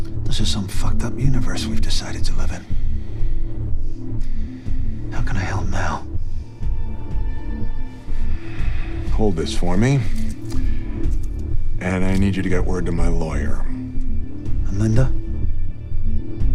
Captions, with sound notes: - This is some fucked up universe we've decided to live in. (suspenseful music continues) How can I help now? (suspenseful music continues) (Larry sighs) - Hold this for me. And I need you to get word to my lawyer. - And Linda?